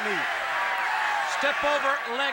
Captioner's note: crowd cheering